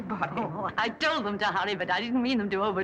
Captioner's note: chuckles